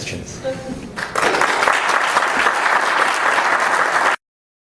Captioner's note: applauding